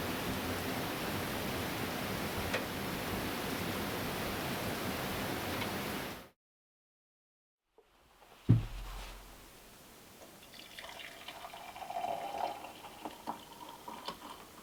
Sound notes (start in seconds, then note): 10.3 liquid gurgling